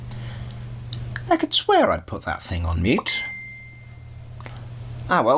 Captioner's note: smartphone pings